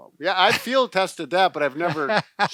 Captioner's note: laughing